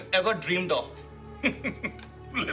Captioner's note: chuckles